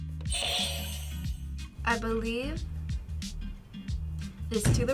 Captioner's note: buzzer rings